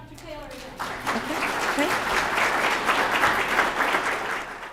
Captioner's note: applause